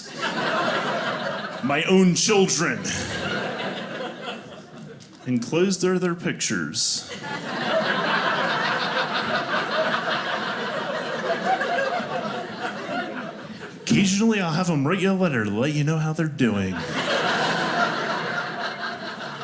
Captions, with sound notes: (audience laughing) my own children, (audience laughing) enclosed are their pictures. (audience laughing) Occasionally I'll have them write you a letter to let you know how they're doing. (audience laughing)